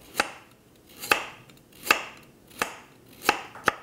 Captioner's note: chopping